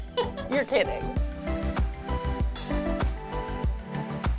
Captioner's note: laughing